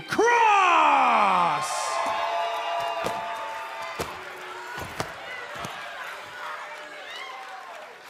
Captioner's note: cheers and boos